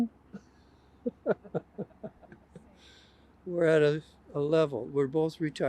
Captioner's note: laughs